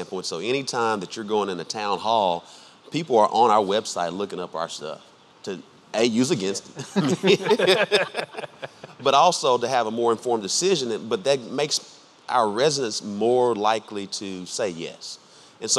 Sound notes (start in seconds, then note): 6.7 laughing